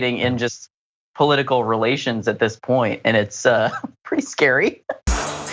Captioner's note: laugh